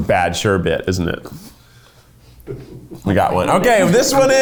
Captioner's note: chuckling